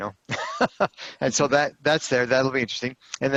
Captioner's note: laughter